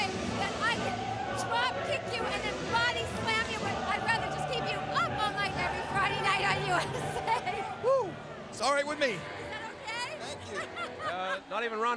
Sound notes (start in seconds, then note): 6.5 laughs; 10.4 Rhonda laughing